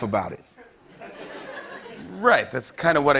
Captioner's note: laughter